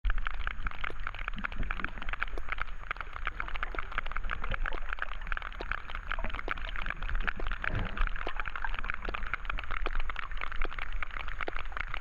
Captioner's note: sperm whale codas and clicking